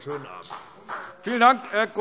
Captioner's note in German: Beifall CDU und BÜNDNIS 90/DIE GRÜNEN